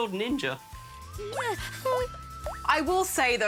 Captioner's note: cries